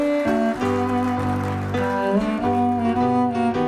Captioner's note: applause